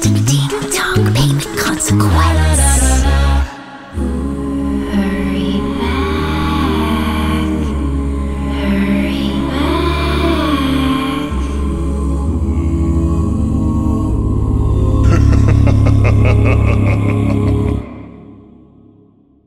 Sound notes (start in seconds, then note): 15.0 evil laughter